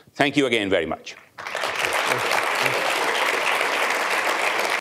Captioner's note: audience clap